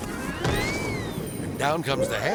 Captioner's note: hay bale thuds